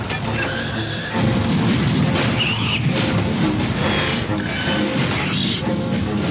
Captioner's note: sound effects